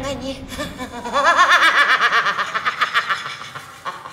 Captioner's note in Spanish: Risa malvada